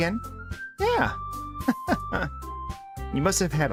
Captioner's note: laughs